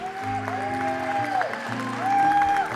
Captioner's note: applause; cheering